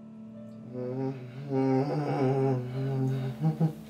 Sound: Derek moaning

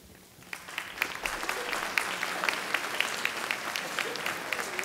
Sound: audience clapping

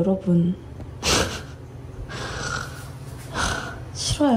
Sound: sighs

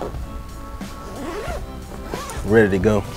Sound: zipper zipping

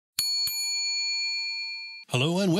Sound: bell dings

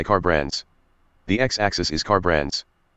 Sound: screen Reader Speaking

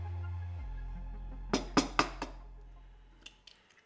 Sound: sound of egg shells cracking

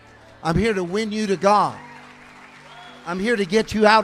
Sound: congregation cheering

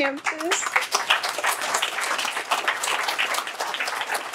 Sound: applause

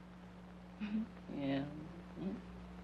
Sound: giggles

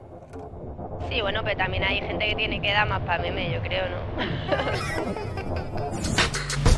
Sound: laughs

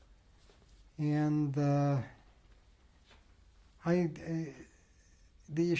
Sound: pauses for 3 seconds

